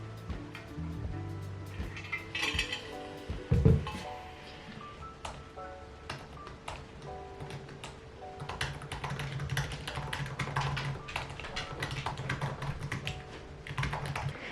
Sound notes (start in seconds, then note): 2.0 ice clinking; 5.8 keyboard clicking